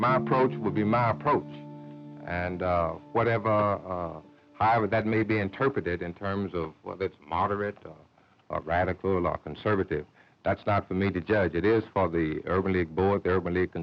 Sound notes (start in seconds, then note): none